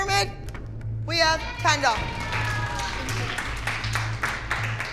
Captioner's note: cheering